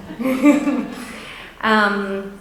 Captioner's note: laughing